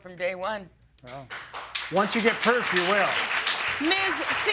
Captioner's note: audience applauding